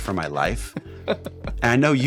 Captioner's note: laughing